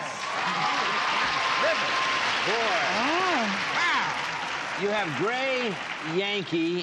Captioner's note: applause